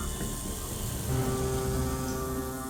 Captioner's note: rattling